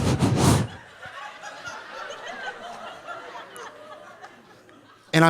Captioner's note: audience laughing softly